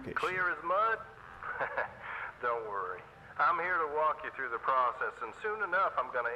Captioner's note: laugh